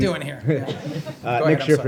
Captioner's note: laughter